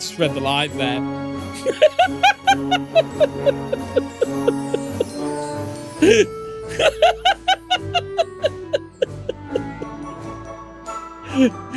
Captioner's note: laughter